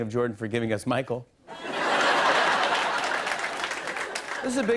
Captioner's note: laughter and applause